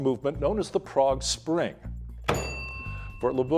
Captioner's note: bell dinging